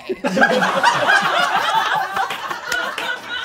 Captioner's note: all laughing